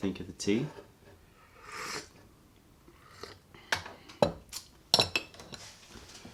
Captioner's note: sips tea